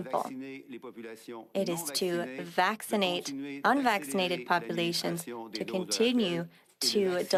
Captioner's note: speaking French